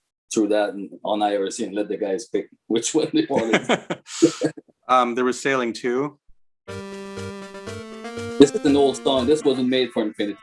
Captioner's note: laughs